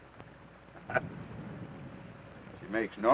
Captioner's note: Theodore chuckles